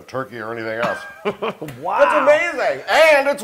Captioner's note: laugh